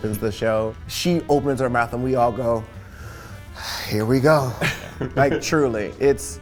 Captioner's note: sighs